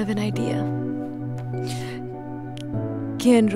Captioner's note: Shreya inhales